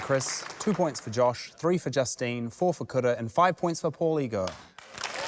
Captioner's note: cheering